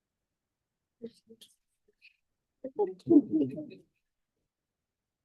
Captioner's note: people chatting